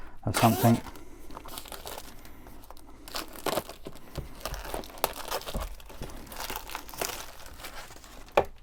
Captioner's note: unwrapping box